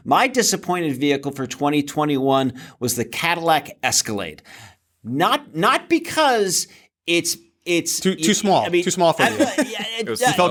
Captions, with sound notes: My disappointed vehicle for 2021 was the Cadillac Escalade, not because-- Too small. Too small for you. [LAUGHS] Yeah--